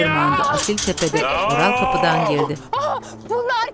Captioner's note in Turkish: Bağırma sesi